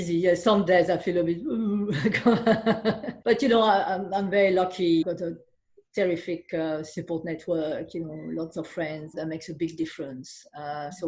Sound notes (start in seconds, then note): 2.4 laughing